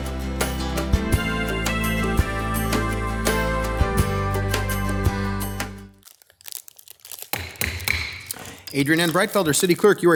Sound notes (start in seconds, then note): 7.4 gavel banging